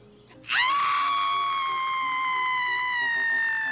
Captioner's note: person screams